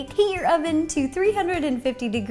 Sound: none

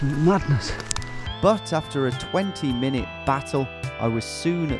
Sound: voiceover

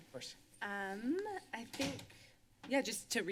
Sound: door slams

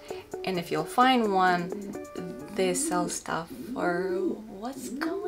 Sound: Toby is cooing

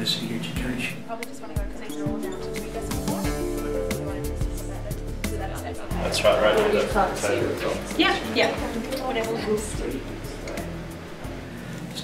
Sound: chatter

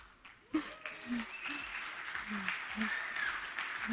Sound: audience cheering

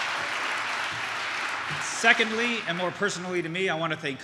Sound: applause

